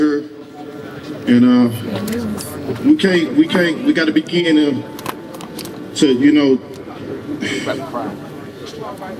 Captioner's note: sigh